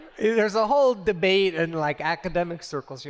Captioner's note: laughter